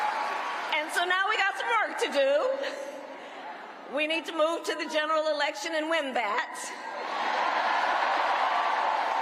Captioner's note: cheers and applause